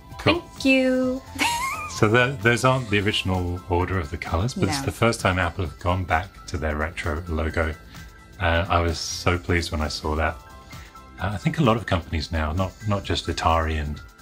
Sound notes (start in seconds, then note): 1.4 laughs